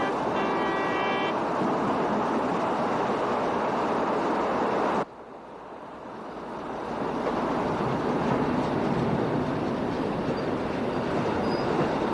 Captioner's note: train horn blowing